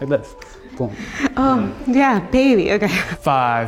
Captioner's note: laughs